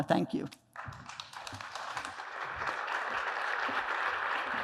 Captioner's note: applause